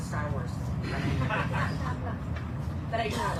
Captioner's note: audience laughs